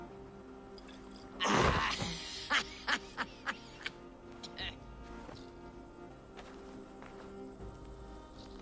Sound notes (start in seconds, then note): 1.4 drunken laughter